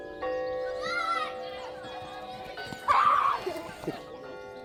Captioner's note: church bells chiming; children yelling